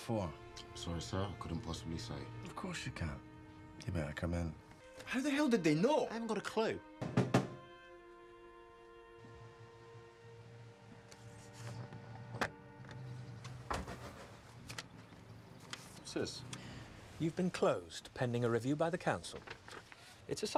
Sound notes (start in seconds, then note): 7.0 James knocking; 7.6 pensive music